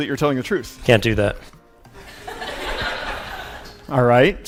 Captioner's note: audience laugh